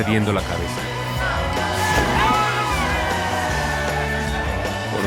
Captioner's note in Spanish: Gritos y exclamaciones